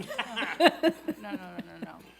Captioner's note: laughs